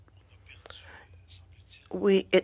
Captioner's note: speaking French